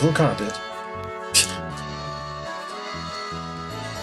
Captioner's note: laughs softly